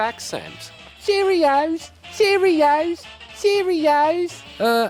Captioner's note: british accent